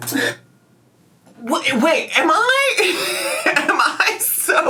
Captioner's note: laughs